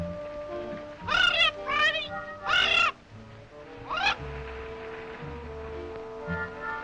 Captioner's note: squawking